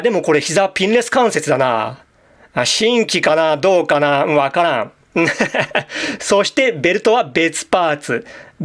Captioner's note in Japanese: 笑い